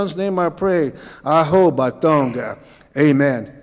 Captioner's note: speaking Cauijoga